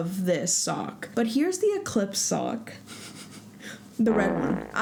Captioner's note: laugh